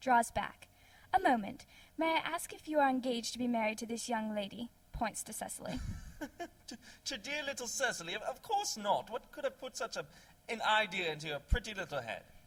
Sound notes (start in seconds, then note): 5.7 laughing